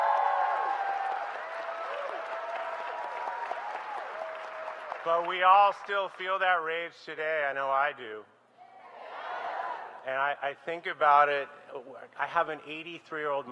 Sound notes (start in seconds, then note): 4.4 applause